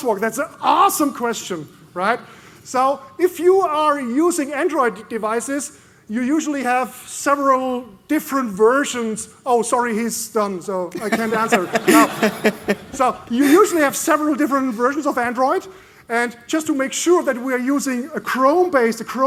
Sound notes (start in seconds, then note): 10.9 laughter